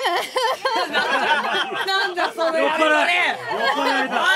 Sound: laughs

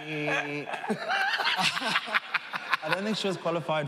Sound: laughing

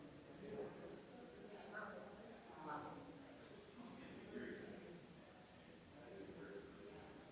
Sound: people chattering distantly continues

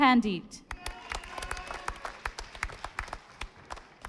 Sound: audience applauding

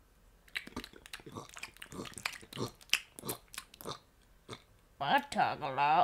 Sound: loud Chewing

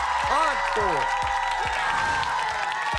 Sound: cheering

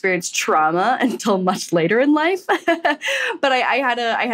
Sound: laughs

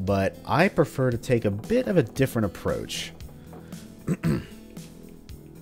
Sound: clears throat

